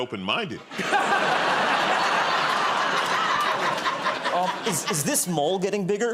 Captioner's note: laughter